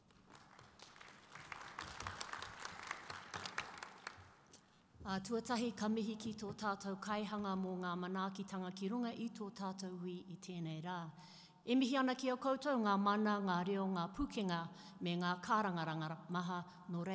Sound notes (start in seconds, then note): 0.0 audience applause; 4.9 speaking in Maori